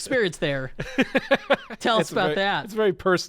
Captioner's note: laughing